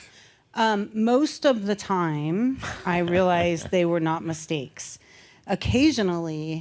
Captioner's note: chuckles